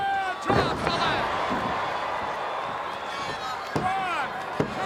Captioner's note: audience cheering; body thudding